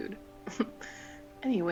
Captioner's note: chuckle